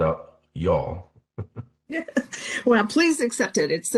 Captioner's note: laughing